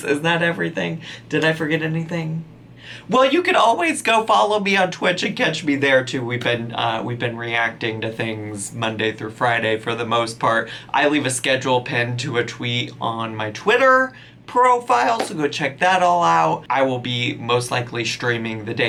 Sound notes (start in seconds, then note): none